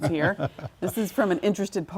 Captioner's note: laugh